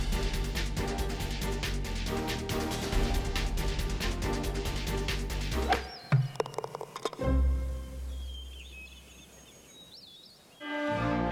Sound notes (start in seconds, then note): 6.0 golf ball rolling in cup